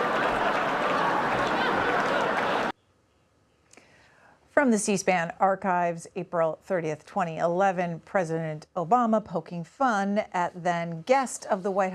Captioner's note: laughter